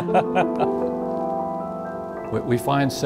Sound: laughs

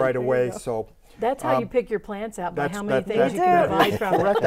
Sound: laughing

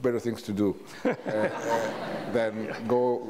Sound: audience laughs

